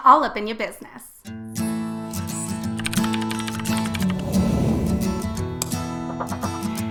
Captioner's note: cheerful guitar music; keyboard clicks